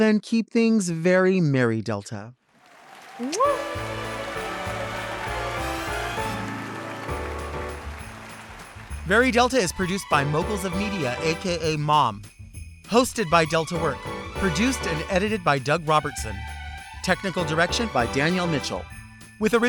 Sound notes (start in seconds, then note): 3.2 audience applauds; 4.9 festive music plays